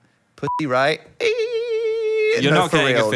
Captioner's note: beep; squeals